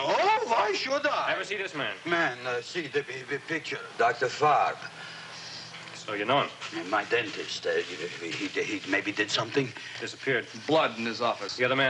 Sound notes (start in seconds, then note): 7.7 stammers